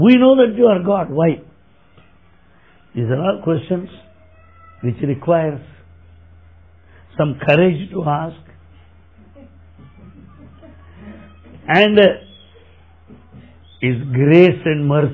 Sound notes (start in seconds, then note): 9.1 laughter